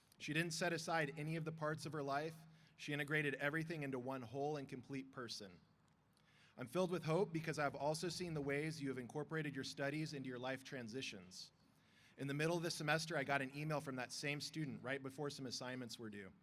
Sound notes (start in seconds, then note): none